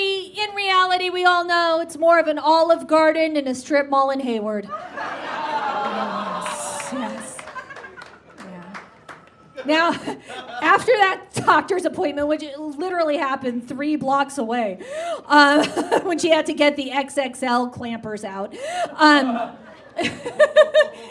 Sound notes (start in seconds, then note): 4.7 audience groans and laughs